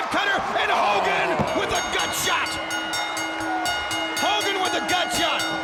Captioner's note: bell rings